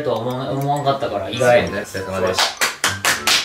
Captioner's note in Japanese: 一同拍手